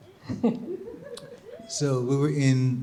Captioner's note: audience chuckling